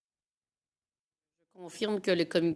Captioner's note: speaking in French